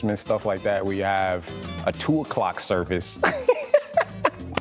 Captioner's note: laughing